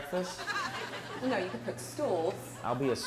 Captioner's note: audience laughing